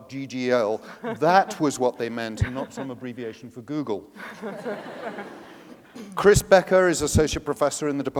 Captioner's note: laughter